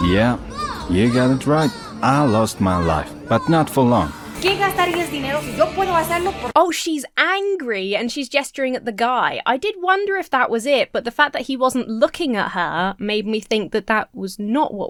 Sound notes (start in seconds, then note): 4.4 patron speaking foreign language